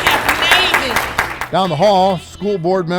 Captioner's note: audience applauding